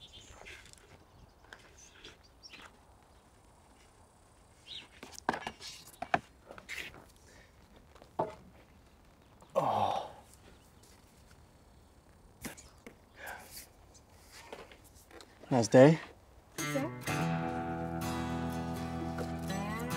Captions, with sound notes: (Christian sighs) Nice day. - You too. (solemn music)